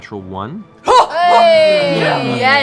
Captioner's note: cheering